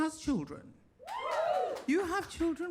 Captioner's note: audience cheers and claps